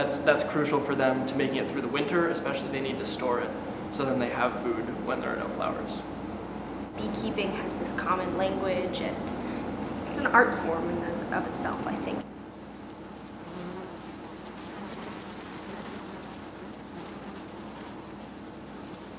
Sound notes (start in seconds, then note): 12.4 buzzing